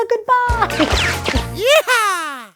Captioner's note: laser shooting